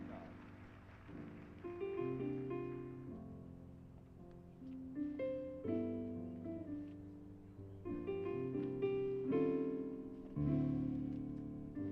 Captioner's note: applause